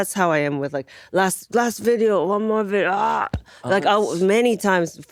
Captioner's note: groans